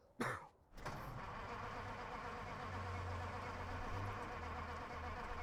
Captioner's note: engine struggles to start